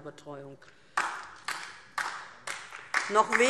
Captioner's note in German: Beifall DIE LINKE